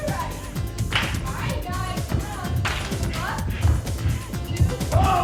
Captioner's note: hands clapping; footsteps plodding